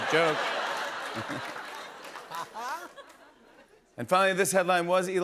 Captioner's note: laughter